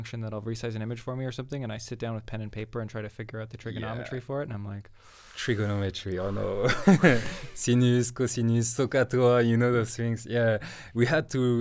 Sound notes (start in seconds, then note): 5.0 inhales and exhales; 6.5 laughs